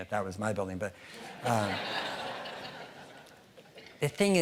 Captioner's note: audience laughing